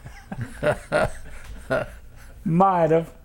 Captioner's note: laughter